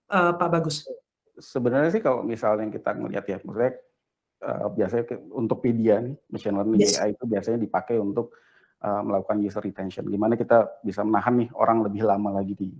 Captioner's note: non-english speech